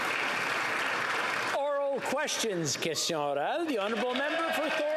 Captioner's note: some Applause